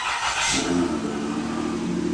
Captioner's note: starts car